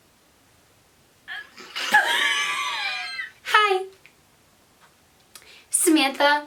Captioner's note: laughs